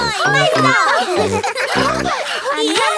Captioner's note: giggles; panting